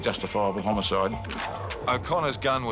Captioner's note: gun cocks